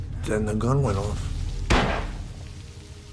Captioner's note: gunshot